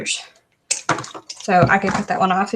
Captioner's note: thud